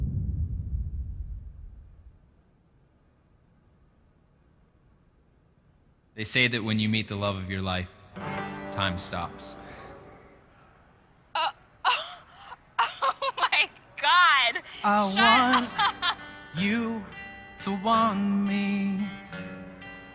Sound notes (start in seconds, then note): 11.8 gasps, laughing